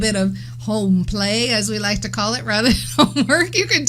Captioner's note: laughs